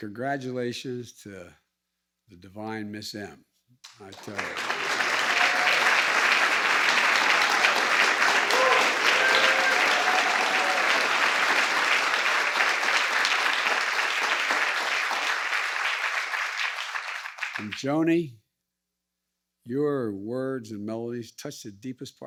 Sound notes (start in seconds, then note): 10.7 applause